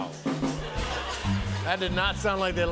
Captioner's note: laughter